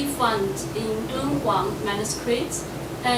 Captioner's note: speaking foreign language